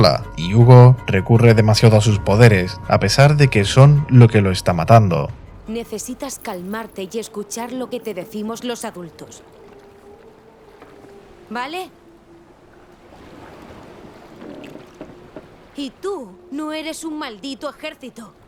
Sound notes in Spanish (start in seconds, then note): 13.4 charla en la barca de Sofia